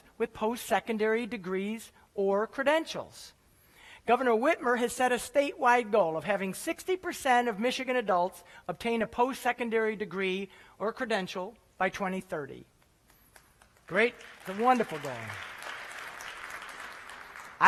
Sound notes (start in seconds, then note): 13.3 applause